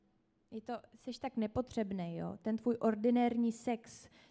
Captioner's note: speaks Czech